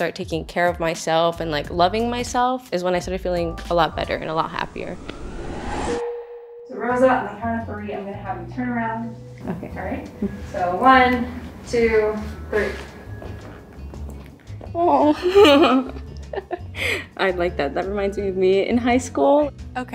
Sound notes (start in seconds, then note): 5.7 bell dinging; 15.1 giggling